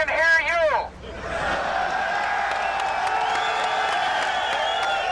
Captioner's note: cheering, applause